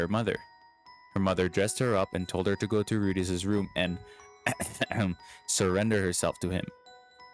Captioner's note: ahem